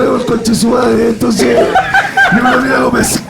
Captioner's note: laughs